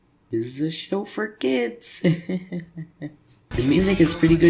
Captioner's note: nervous laughing